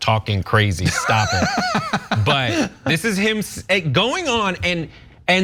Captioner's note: laugh